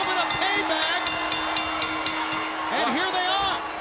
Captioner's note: bell ringing